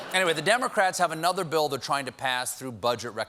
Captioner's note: laughter